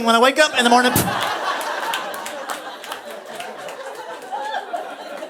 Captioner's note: audience laughing